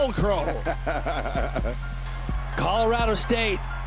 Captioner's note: laughs